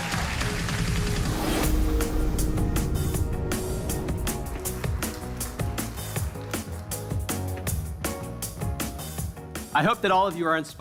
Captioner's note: cheers and applause